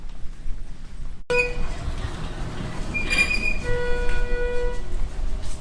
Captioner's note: elevator squeaking